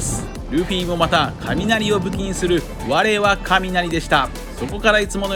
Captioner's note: thunder